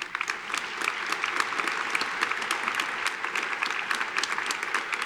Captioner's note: audience applauding